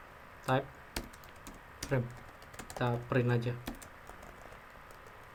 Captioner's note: typing